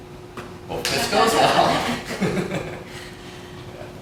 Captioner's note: laughter